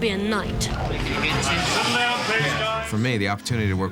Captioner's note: chattering